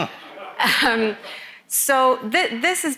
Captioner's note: everyone laughs